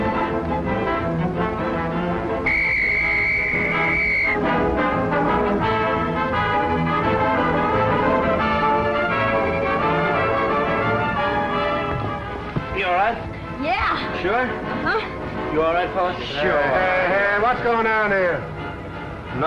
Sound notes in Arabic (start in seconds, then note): 0.6 صافرة